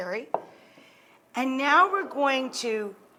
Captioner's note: bottle thuds